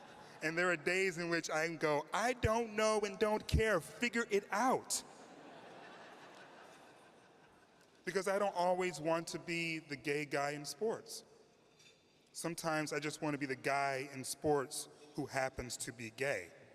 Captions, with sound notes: And there are days in which I go, 'I don't know and don't care. Figure it out!' [Laughter] Because I don't always want to be the gay guy in sports Sometimes, I just want to be the guy in sports. Who happens to be gay.